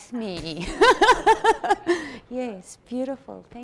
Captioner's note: she laughs